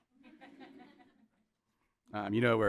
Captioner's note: audience laughing